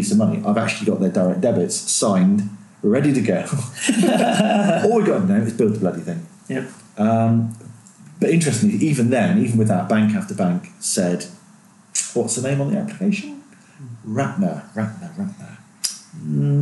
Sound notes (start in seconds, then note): 3.7 laughing